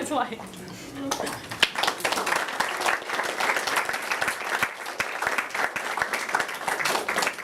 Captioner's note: applause